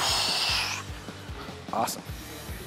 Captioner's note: exhaling